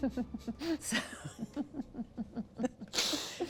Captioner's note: laughter